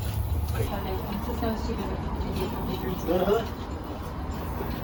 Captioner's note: chitter chatter